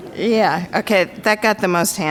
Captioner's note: crowd laughs